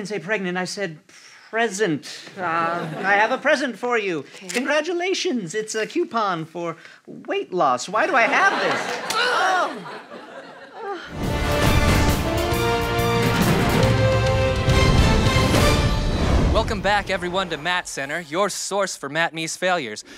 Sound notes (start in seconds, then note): 8.8 slap